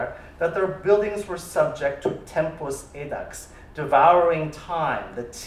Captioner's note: non-english